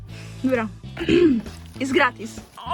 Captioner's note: ekhem